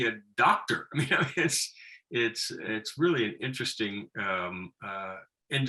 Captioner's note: laughing